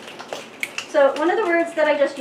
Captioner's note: audience snaps